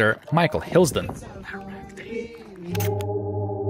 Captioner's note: whispering